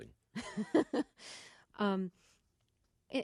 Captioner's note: soundbite of laughter